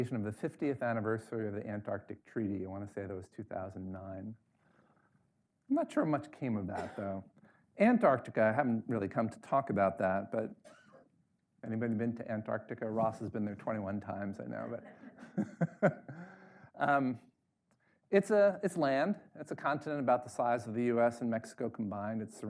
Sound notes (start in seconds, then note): 14.6 laughs